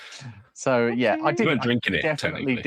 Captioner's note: laughing